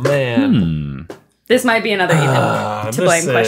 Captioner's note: groaning